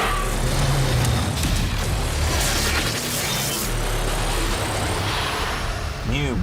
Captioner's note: audio whooshing continues; creatures growling continues